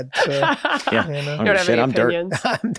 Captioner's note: laughs